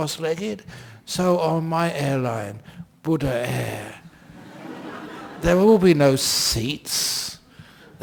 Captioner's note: laughter